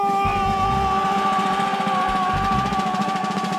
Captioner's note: men yelling